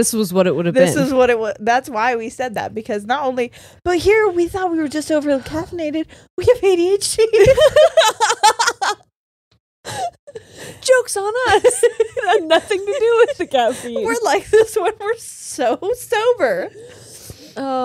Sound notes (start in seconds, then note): 7.4 all laughing